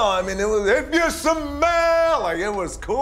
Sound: shouting

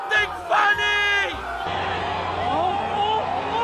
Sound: everyone cheering

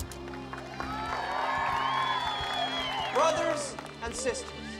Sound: Chosen cheering and applauding

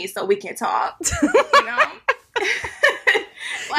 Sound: laughs

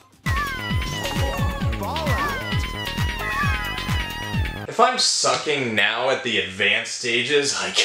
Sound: baby monkey screams

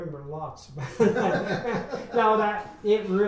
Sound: men laugh

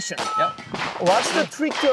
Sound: metal clanging

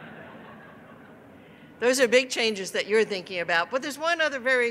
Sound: laughter

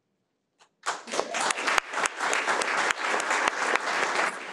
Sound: audience clapping

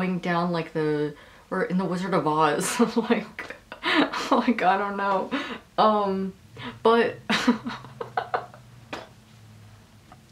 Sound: laughing

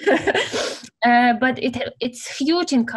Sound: laugh

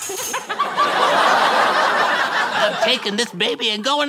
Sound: audience laughter

